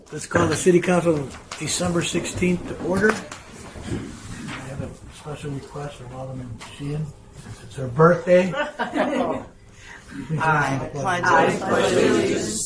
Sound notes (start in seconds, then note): 0.0 gavel raps; 8.4 council members chuckle